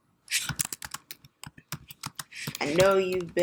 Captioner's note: keys clicking